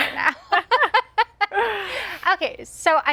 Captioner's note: laughs; both laugh